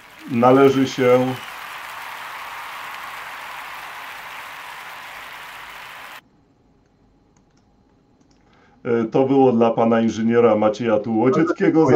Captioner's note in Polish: Aplauz